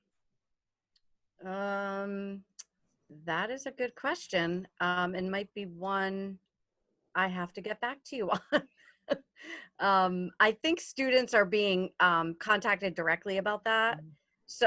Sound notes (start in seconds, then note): 9.0 chuckles